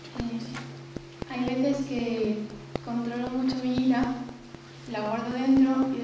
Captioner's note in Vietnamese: tiếng tây ban nha